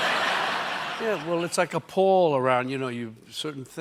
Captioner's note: laughter